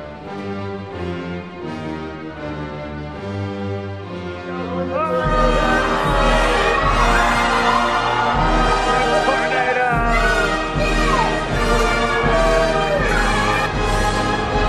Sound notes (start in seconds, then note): 5.0 cheering; 10.1 inspiring music